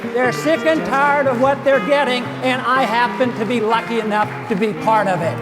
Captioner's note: cheers